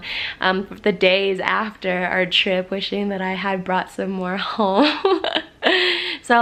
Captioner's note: laughs